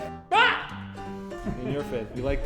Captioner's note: screams; staff member laughing